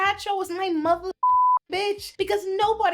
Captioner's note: beep